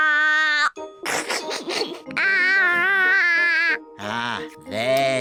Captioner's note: giggles